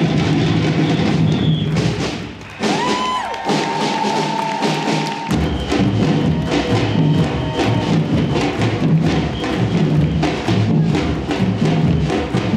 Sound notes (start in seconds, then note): 3.1 audience cheering and applauding; 6.6 upbeat drumbeat music